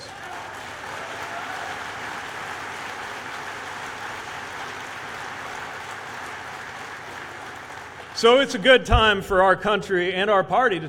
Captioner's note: applause